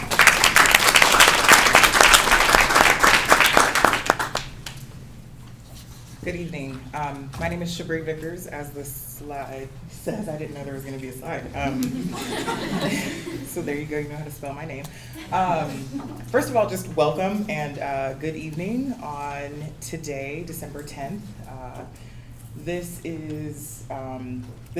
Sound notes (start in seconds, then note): 0.0 applause; 11.6 crowd laughs